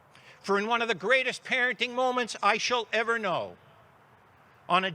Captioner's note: none